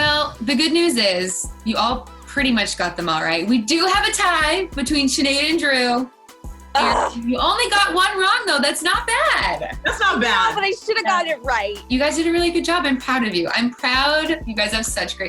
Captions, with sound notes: - Well, the good news is you all pretty much got them all right. We do have a tie, between Sinead and Drew. - (frustrated cry) - You only got one wrong though, that's not bad! - That's not bad. - I know, but I should've got it right!